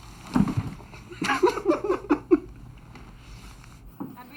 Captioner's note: laughing